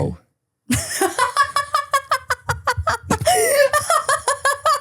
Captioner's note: person laughing